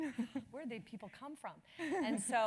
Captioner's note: laugh